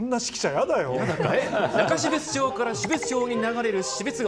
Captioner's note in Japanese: 笑い